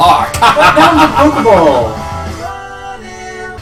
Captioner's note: laughs evilly